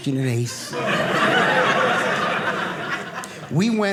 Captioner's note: audience laughing